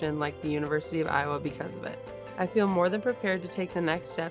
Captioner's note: none